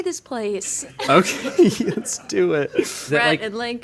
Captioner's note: chuckling